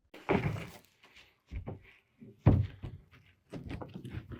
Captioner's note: boards clanking